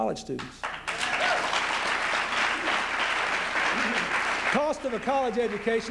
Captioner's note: applause